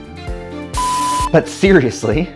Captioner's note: beeping